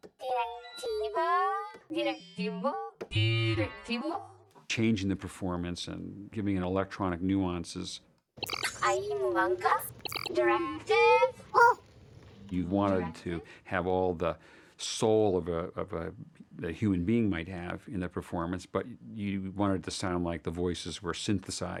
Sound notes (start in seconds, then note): 0.1 modulating; 8.6 inquiring in foreign language